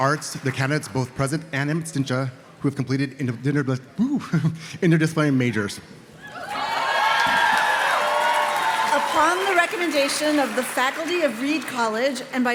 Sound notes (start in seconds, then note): 6.3 audience cheers and claps